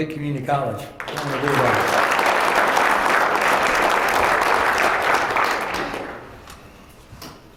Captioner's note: applause